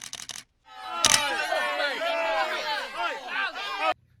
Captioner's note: crowd jeers